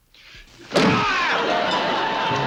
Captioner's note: shouting